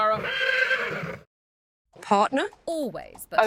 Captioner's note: horse neighs